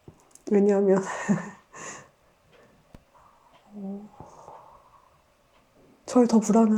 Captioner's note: laughs